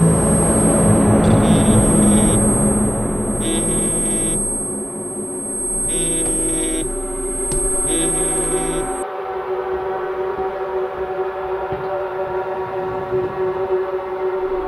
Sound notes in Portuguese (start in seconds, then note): 1.4 Celular Vibrando